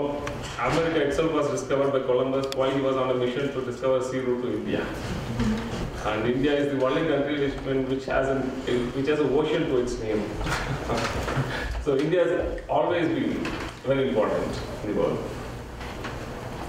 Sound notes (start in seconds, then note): 10.4 laughs